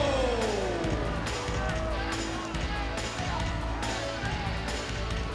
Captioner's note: audience applauds and cheers